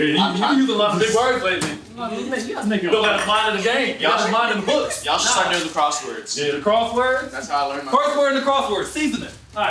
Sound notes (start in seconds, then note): 1.9 group chattering